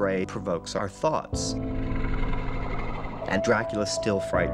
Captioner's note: growl